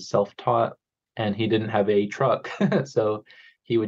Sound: chuckles

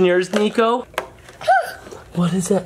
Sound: gasps

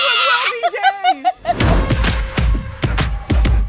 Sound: screams; upbeat music

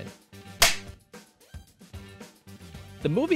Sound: film clapper sound, music continues

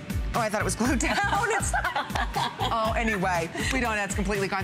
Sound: laughter

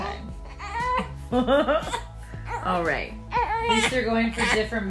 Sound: laugh

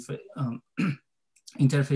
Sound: clears throat

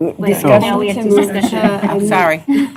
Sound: indistinct chatter

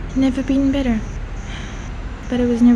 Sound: sigh

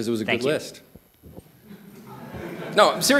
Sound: laughter

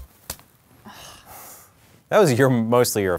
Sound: groaning

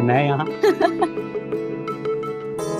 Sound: laughing

